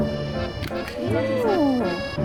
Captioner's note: impressed sounds